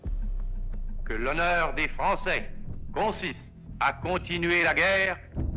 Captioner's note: speaks French